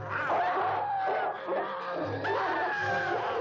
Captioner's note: dog barking